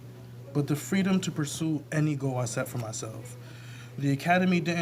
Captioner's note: none